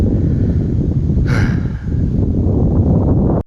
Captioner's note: sigh